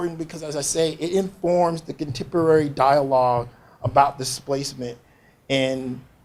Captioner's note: none